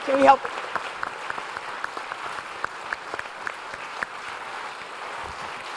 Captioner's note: audience applause